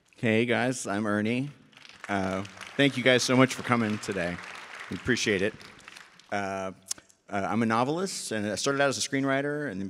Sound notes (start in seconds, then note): 1.7 audience applauds